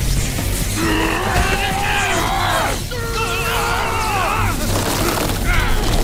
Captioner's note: everyone groans